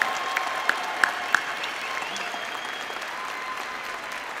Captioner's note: applause